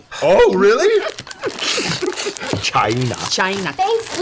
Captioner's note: laughs